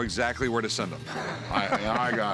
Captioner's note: laughs